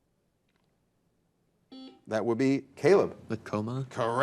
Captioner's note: buzzer buzzing